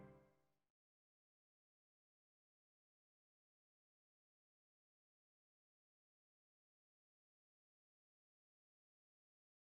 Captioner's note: silence